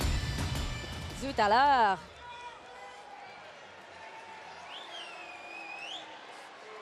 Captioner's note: speaking in foreign language